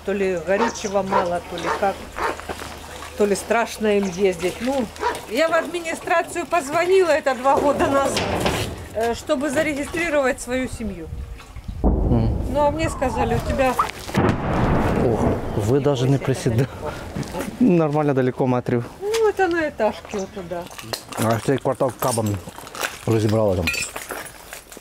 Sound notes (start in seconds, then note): 11.8 explosion in the background; 14.0 explosion closer